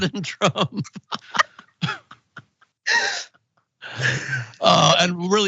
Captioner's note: laugh